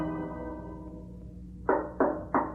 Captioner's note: knocks